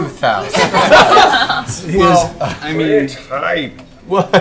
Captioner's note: all laugh